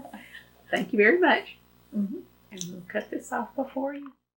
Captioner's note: laughter